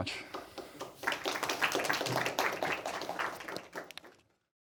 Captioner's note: audience clapping